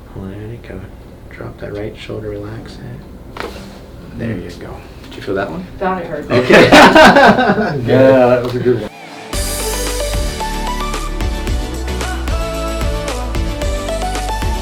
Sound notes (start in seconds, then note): 3.5 joints cracking; 6.3 all laughing